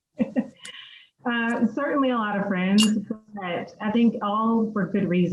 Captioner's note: laughs